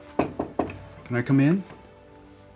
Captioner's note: knocking on door